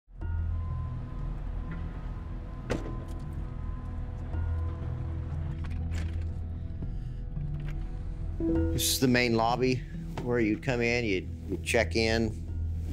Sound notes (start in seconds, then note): 0.0 gentle somber music; 3.3 ambulance door slamming; 5.5 door unlocking